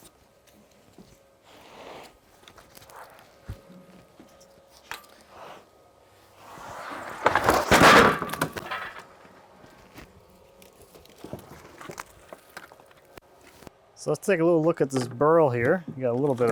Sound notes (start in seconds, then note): 2.4 slab scrapping; 7.0 slab banging